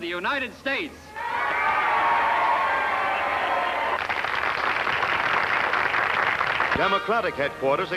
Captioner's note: applause